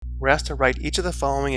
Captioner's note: voiceover